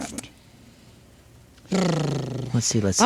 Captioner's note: imitates record scratching